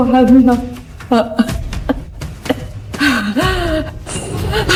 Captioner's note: coughs